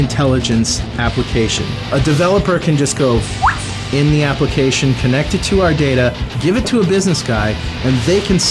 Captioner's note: whistle